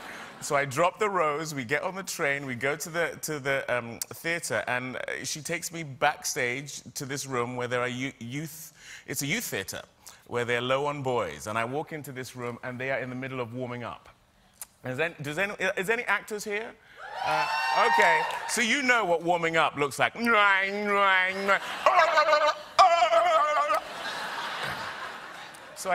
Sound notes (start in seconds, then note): 17.0 cheering; 21.8 silly noises